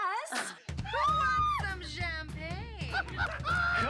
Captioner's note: woman screams; laughing